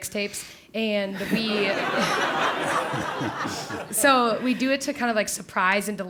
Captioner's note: laugh